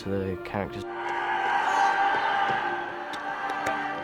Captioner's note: yelling